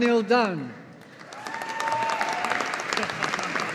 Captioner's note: audience applauding